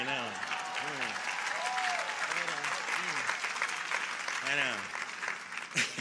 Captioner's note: audience applauding